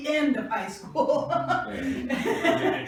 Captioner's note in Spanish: risas